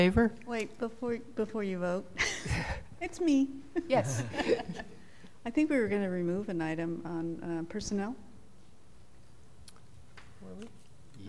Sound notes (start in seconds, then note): 3.8 laughter